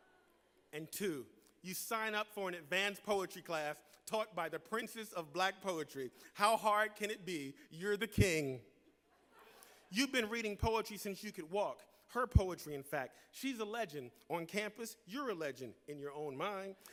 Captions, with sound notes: 2. You sign up for an advanced poetry class taught by the Princess of Black Poetry. How hard can it be? You’re the king. 1. You take a course called Organic Chemistry. (Laughter). Her poetry, in fact. She’s a legend. 2. You sign up for an advanced poetry class taught by the Princess of Black Poetry.